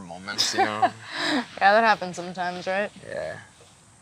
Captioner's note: laughs